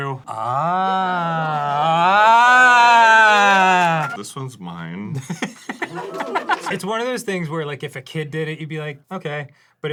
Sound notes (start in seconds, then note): 5.8 crew ooos and awes voluntarily